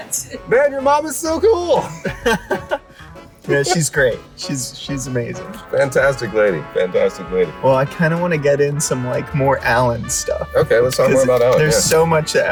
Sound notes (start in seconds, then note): 1.4 laughs